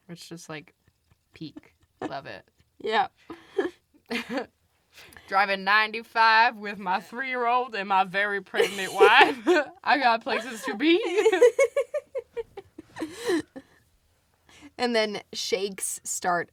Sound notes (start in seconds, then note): 4.0 both laugh; 13.0 laughs